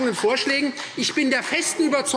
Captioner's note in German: Beifall Freie Demokraten